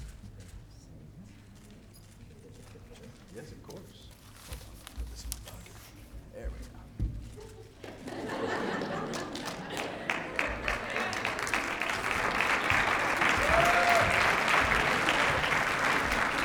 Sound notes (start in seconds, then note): 7.8 laughter; 11.4 applause